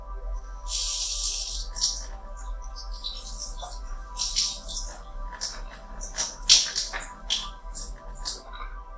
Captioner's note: water running